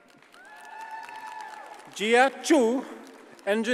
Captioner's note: audience cheers and applauds